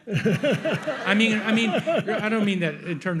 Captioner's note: audience laughs